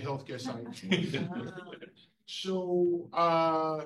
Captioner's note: ALL chuckles